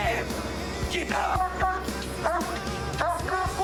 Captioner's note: barking